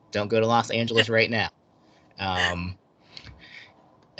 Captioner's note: laughing